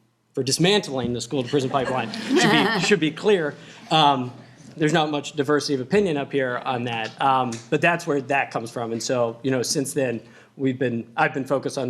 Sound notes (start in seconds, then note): 1.4 laughter